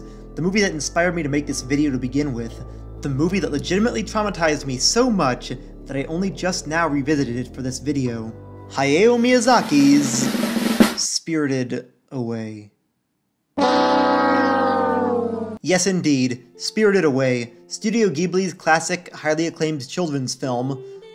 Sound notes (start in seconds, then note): 13.6 fail horn